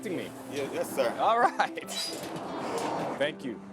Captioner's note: laughs